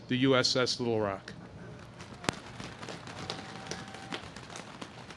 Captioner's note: audience claps